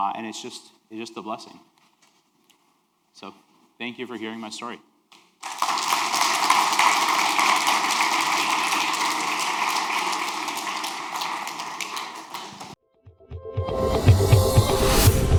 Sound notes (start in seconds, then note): 5.4 audience applauding; 13.2 upbeat music